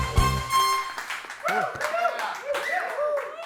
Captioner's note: audience cheering and applauding